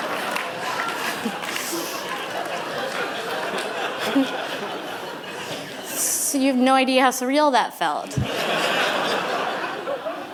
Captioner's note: laughter